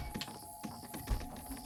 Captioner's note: window creaks